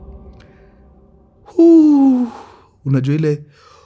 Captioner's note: sighs